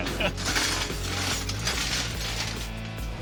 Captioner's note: clanging